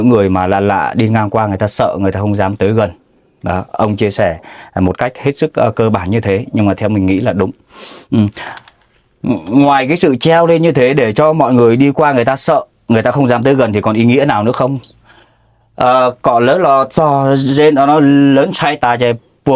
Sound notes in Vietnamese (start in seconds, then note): 7.7 khịt mũi